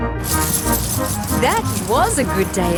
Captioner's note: coins jingling